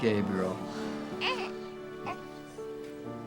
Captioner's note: audience awe